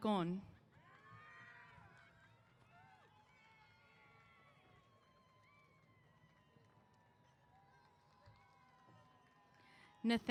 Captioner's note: cheers